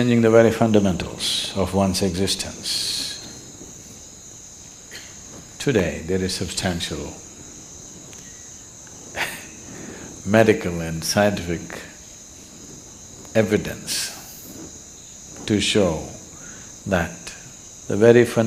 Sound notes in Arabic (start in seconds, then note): 12.8 ضحك